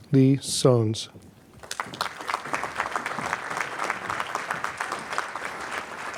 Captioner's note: applause